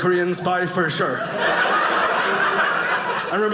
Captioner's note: audience laughing